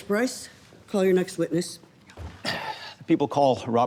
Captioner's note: sighs